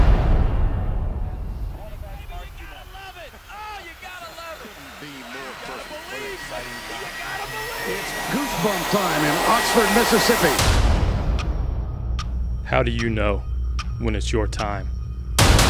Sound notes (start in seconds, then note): 12.0 clock ticking